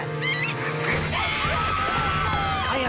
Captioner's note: gophers Screaming